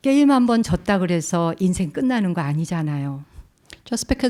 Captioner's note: speaking in Korean